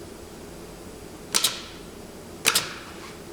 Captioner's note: click